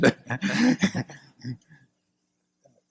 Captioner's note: laughs